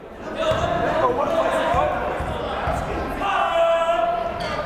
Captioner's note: yelling